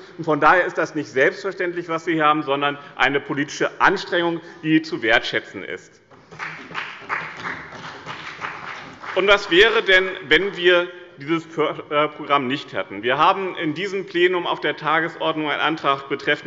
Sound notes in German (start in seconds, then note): 6.2 Beifall bei dem BÜNDNIS 90/DIE GRÜNEN und der CDU